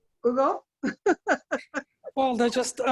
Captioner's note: laughing